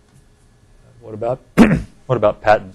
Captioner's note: clearing throat